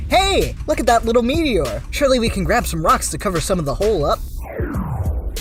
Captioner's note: none